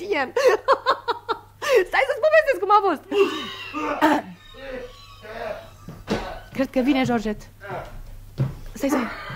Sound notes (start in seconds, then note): 3.2 the inspector coughs